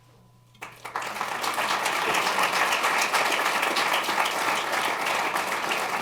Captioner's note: applause